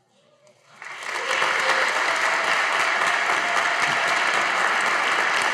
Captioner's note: audience applauding